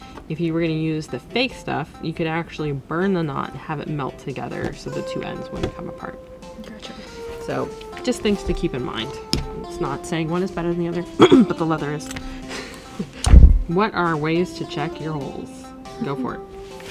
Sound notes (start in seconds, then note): 11.1 insert fake cough